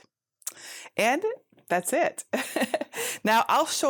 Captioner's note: laughs